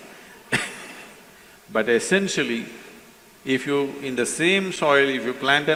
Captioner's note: laughs